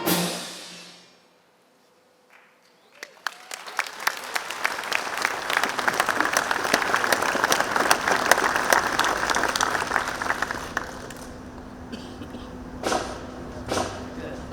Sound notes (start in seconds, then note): 2.8 audience clapping